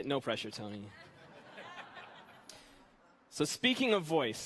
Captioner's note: audience laughing